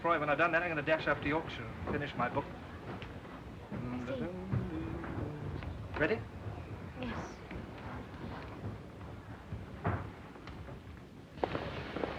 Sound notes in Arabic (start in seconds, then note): 4.2 يدندن جيلبرت; 11.3 هسهسة بخار